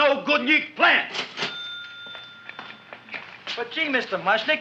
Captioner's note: cash register ringing